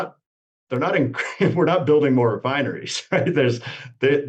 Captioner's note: laughs